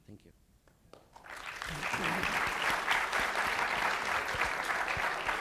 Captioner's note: audience applauds